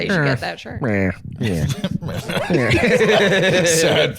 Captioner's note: quietly Peter Griffin's laugh